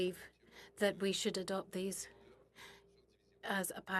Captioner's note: speaking French